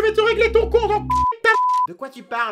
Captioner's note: bip